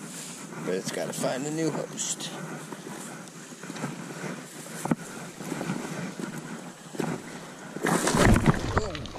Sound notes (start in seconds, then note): 2.8 camera rubbing on waders; 7.7 rocks clanking